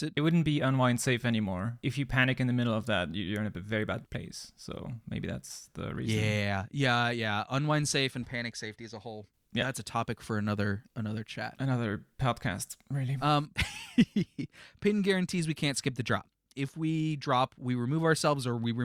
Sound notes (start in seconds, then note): 13.4 laughs